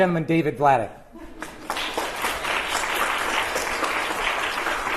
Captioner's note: applause